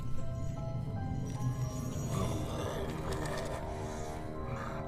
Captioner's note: grumbling